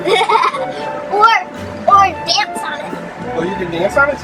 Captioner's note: chuckles